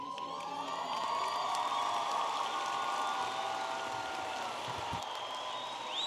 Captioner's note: audience applauding and cheering